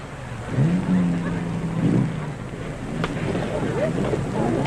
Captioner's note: engine revving